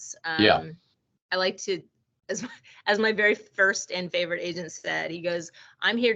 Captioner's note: chuckling